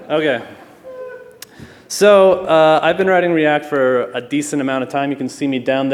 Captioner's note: laughter